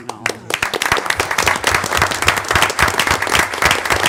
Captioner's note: applause